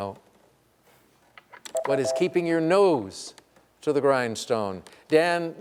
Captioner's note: beep